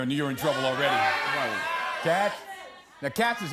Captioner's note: audience shouting